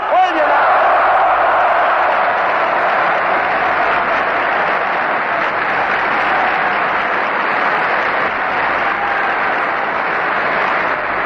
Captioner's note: screams: "Yes", Applause